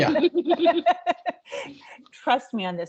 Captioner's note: laughing